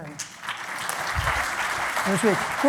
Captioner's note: applause